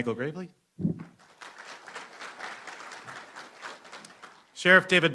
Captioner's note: applause